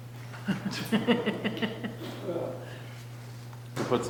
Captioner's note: group laughing